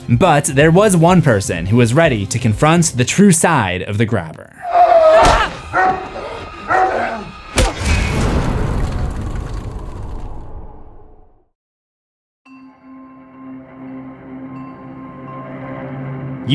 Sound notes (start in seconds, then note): 4.6 screams; 7.5 impact